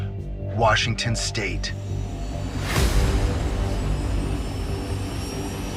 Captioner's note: engine whirring